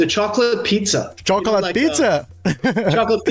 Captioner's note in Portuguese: risadas